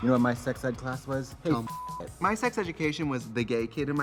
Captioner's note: beep